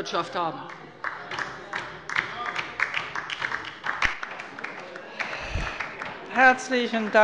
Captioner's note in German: Beifall bei der LINKEN